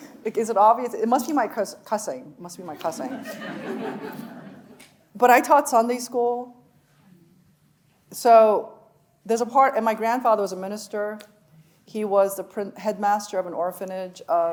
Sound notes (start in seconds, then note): 3.0 audience laughing